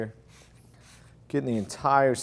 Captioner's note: product sprays